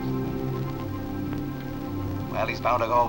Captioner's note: on phone